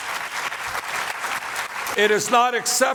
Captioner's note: applause